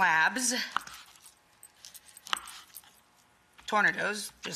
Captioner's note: knife clicking